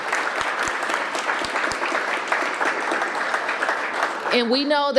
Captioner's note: applause